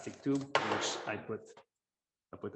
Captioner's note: object falls